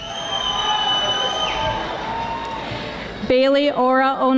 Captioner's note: audience applauding